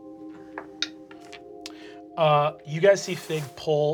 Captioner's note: dice bouncing